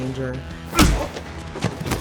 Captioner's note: blow thudding; Todd thudding to ground